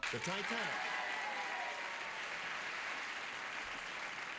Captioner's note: applause